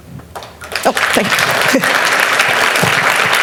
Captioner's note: applause